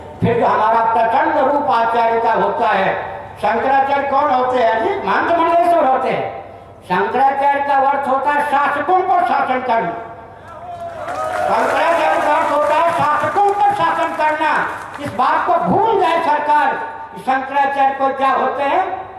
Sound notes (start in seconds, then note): 10.4 sound of clapping in the background